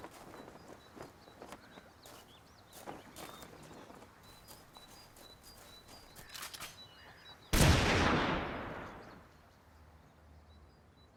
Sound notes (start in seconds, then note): 6.1 rifles cocking; 7.5 gunshots